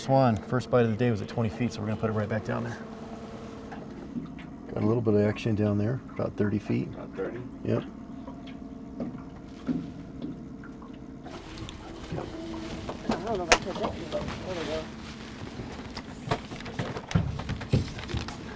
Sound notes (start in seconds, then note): 12.6 reel cranking; 17.7 clattering